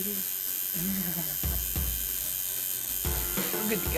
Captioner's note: more needle buzzing